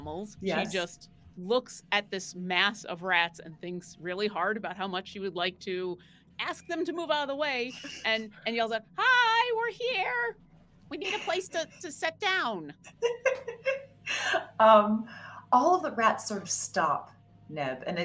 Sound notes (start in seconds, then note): 12.3 laughing